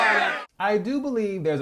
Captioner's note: boos and Jeers